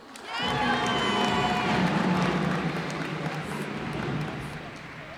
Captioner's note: cheers and applause